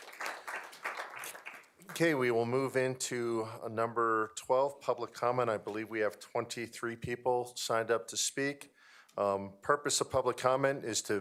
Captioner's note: applause